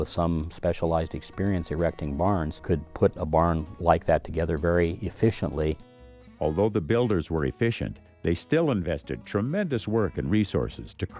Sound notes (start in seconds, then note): 6.6 voiceover